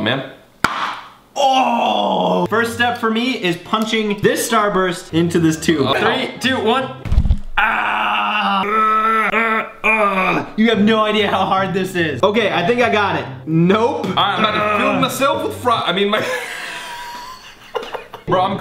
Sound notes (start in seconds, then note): 7.5 groans; 7.5 yells; 16.1 laughs